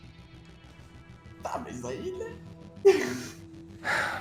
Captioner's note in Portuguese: risadinha